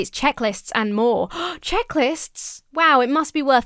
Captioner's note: gasps